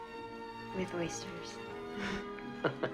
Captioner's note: laughing